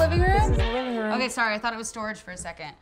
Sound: laughing

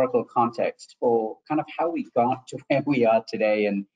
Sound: chuckles

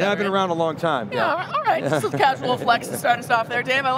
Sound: laughing

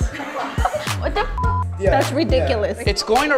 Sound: all laugh; beep

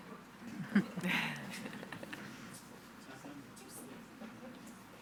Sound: board members laughing

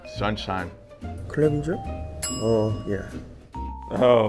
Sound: bell dings

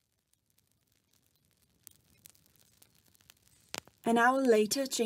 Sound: fire crackling

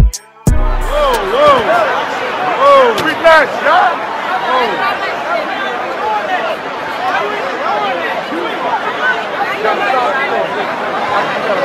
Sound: crowd chatter

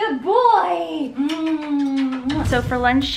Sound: lips smacking

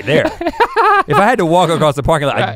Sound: laughs

